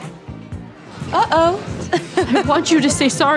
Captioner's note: laughs